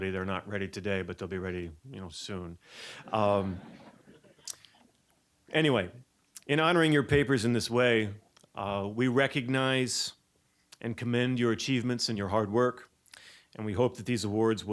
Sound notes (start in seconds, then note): 3.0 audience chuckling